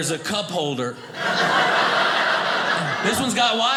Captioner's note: audience laughing